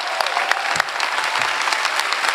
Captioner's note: applause